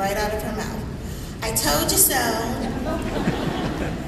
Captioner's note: laughter